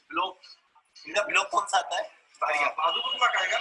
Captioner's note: non-english speech